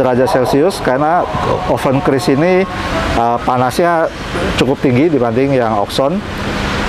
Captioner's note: praying sound